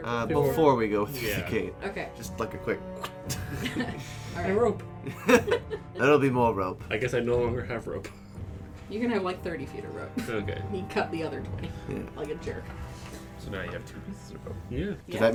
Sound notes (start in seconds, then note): 5.0 laughter; 8.2 chuckles